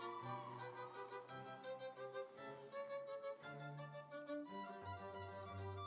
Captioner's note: audience cheering; instrumental music